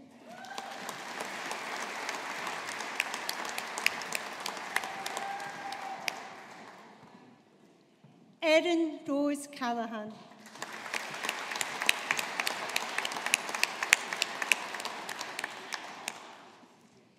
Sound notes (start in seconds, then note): 0.0 audience applauding; 10.4 audience applauding